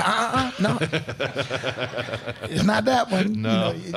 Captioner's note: crowd laughing